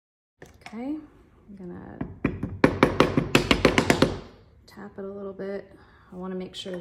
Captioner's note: tapping sounds